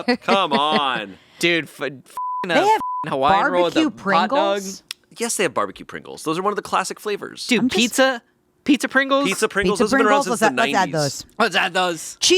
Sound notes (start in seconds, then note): 0.0 laughing; 2.2 beeping